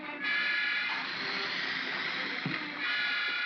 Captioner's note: ominous music; crocodiles hiss; ominous music